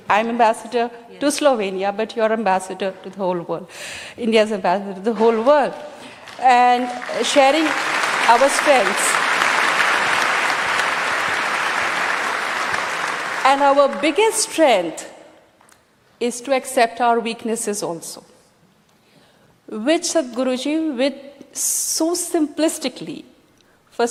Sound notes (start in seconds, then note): 6.1 applause